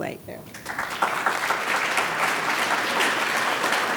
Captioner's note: audience applauds